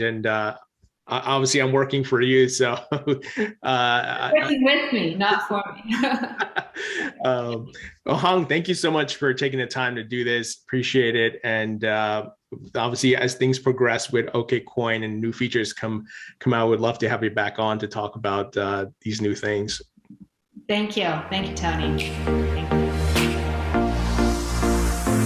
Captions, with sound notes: And obviously I'm working for you, so. (laughs) - Working with me, not for me! (both laugh) - Well, Hong, thank you so much for taking the time to do this, appreciate it. And obviously, as things progress with Okcoin, and new features come out, we'd love to have you back on to talk about these new things. - Thank you. Thank you, Tony. (light, upbeat music)